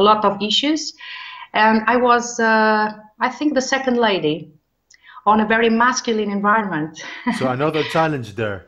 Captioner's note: chuckles